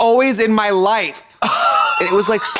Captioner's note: Katya rasps